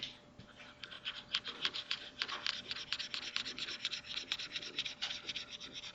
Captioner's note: mouse scribbles